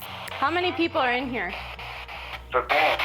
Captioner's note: spirit box scanning; spirit box voice